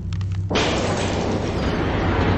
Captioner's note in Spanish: Crujido; Estruendo